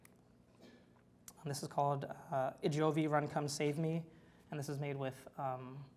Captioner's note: foreign language